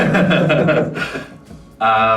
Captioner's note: all Laugh